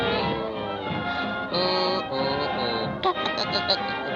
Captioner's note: Popeye humming; Popeye chuckling